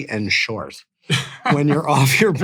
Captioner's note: laughing; laughs